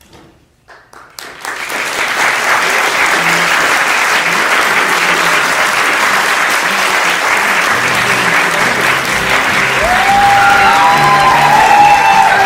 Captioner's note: applause